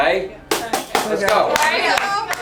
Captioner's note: hands clap